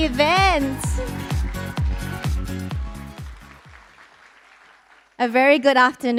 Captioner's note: applause, cheering